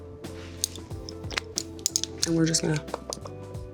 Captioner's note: smacking lips